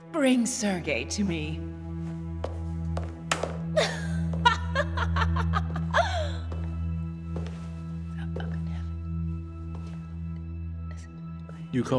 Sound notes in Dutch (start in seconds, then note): 3.7 Elisabeth lacht